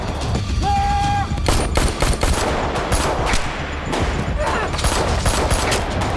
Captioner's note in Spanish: Disparos